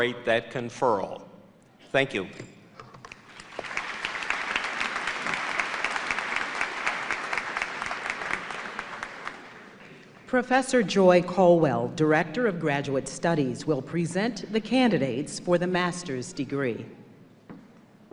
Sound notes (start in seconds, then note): 3.1 applause